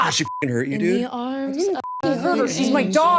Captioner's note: beep